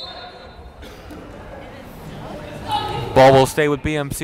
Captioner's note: whistle blowing